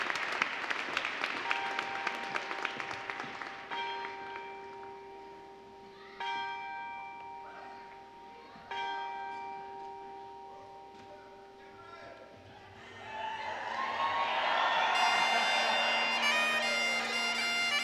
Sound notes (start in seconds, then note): 0.0 applause; 1.4 bell rings 5 times